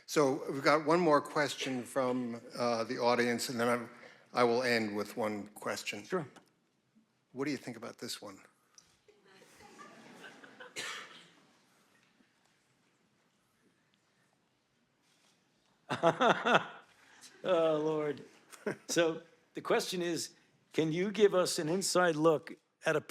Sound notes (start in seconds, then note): 9.3 audience laughing; 15.9 Dr. Fauci chuckles